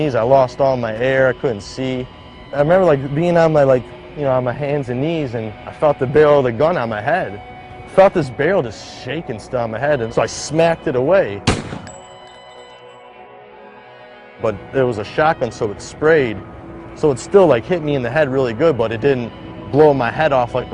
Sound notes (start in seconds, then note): 11.4 bang sound